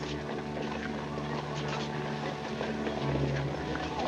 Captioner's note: indistinct chatter